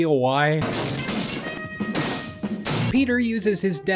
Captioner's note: repeated karate chopping